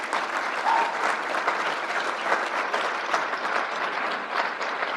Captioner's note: crowd applauds